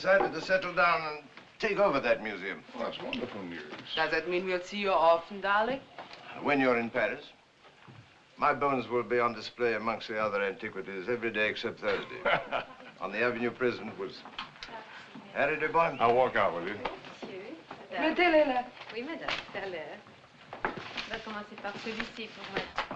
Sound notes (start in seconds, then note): 11.8 laughs; 18.1 French